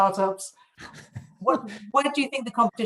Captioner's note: laughs